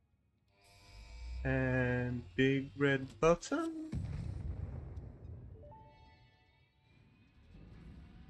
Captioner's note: boom